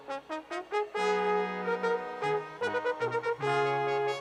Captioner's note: none